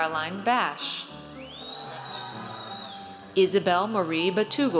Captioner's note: audience cheers